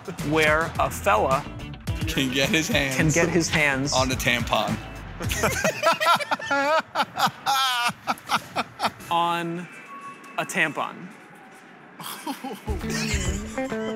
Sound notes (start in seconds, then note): 5.2 laughter; 12.0 laughing; 13.7 laughter